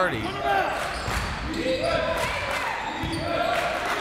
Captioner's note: crowd